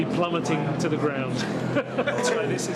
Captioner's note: laughter